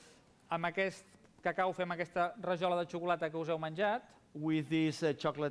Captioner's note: non-english speech